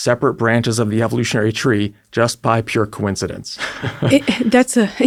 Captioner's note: laughs